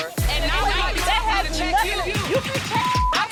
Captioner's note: dramatic hip-hop music; people speaking indistinct